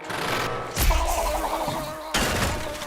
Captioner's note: growling; blubbing